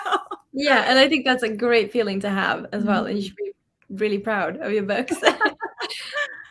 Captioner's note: laughs